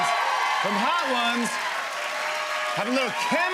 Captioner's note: cheers and applause